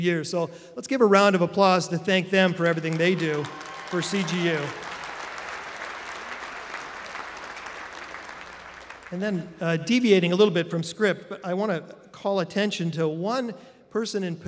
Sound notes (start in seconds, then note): 4.8 applause